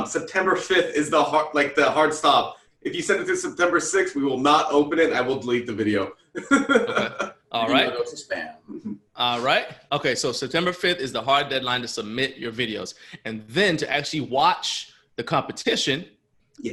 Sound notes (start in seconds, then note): 6.4 laughter